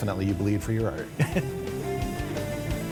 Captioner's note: chuckles; upbeat music